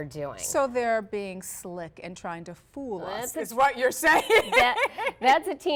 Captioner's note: laughs